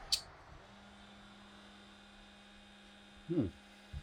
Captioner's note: machine hums